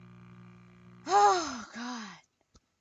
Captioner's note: sighs